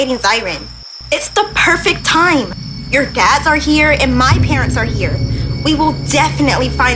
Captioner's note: serious Tone